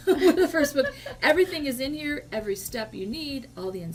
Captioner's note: laughs